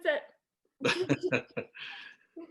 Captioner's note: laughing